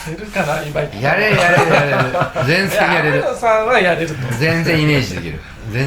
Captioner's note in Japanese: 笑い